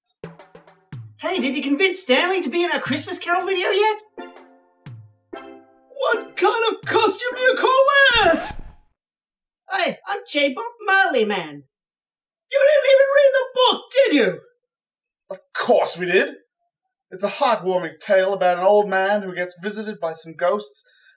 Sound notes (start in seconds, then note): 0.3 reggae music plays; 8.1 record scratch, music stops